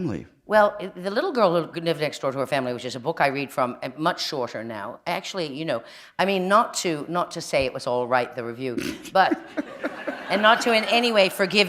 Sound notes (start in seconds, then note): 9.1 laughter